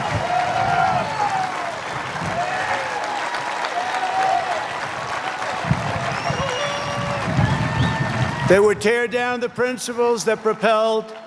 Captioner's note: cheers and applause